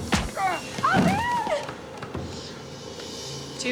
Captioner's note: groans